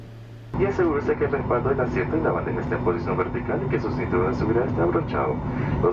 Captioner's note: airplane announcement in Spanish